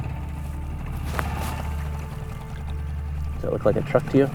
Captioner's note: engine chugging; somber orchestra music